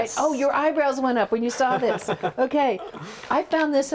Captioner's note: laughs